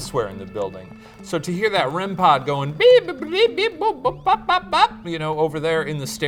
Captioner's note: mimics beeping